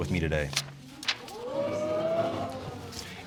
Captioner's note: audience exclaiming